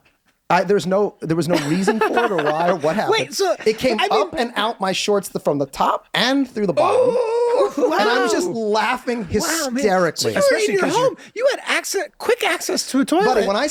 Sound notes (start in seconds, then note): 6.7 Glenn yelling